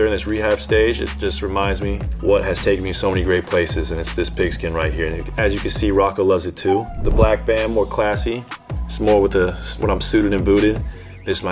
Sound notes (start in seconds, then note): 6.7 whines